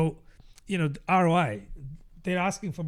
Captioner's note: uh